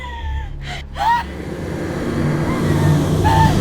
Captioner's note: Connie sobs